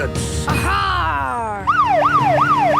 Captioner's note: siren wailing